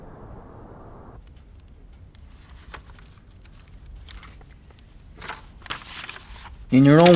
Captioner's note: fire crackles; pages flipping